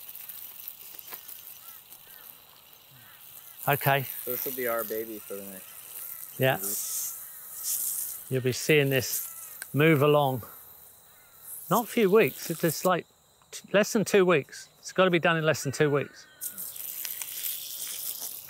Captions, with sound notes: [water spraying] [birds chirping] Okay. - So this will be our baby for the next few weeks. - Yeah. You'll be seeing this move along. Not few weeks, it's just like less than two weeks? It's got to be done in less than two weeks. [water spraying]